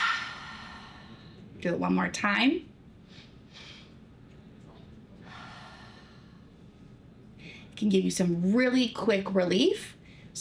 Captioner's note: breathing Deeply